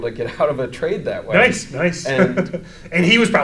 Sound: chuckles

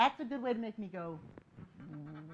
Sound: laughing

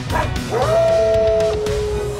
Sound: howling

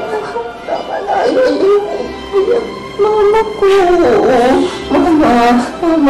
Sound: shushes

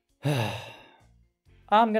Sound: sigh

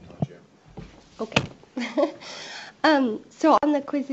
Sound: laughing

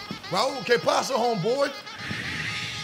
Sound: spanish

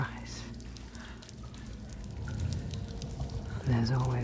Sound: water trickling

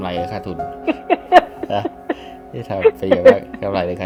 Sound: laughing

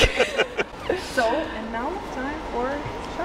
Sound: laughing

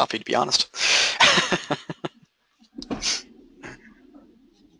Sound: laughing

